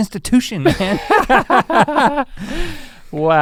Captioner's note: both laugh